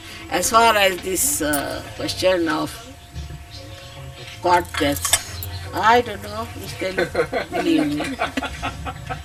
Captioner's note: laughter